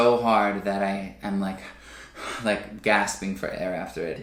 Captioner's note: breathes heavily